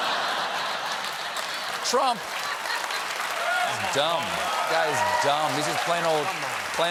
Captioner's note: applause